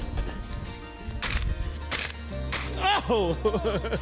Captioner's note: gun firing; laughing